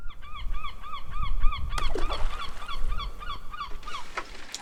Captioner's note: transphobic seagull call